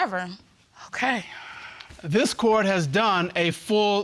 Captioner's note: sighs